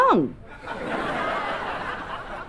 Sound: laughing

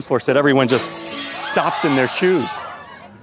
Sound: glass shattering; people gasping

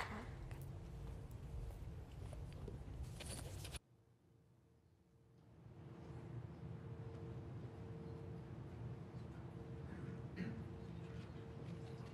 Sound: applause

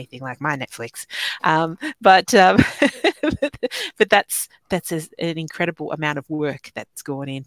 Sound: laughing

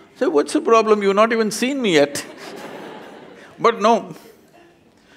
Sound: laughter

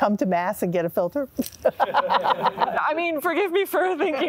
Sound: all laughing

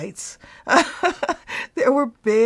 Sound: laughs

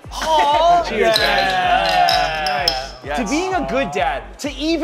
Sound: all exclaiming

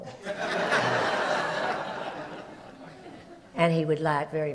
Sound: audience laughs

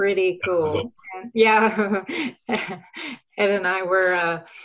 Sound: laughs

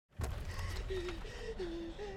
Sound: girl panting

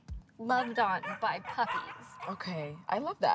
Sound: puppies bark

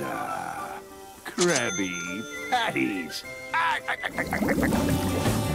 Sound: laughs

